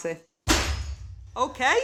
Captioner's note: thwack